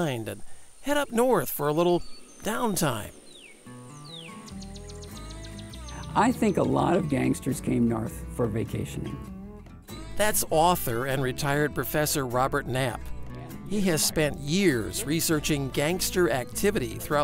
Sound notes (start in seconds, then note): 3.4 birds chirp